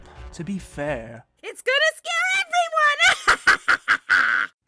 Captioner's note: laughs menacingly